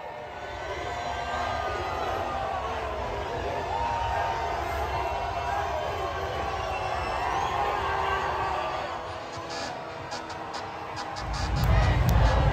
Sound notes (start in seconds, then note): 0.0 cheers and Crowd Noise; 0.0 crowd Chanting “MVP”; 9.7 Crowd Chanting “Lets Go Nuggets”; 9.7 cheers and Crowd Noise